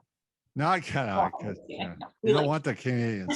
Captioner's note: laughs